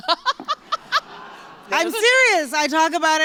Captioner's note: laughter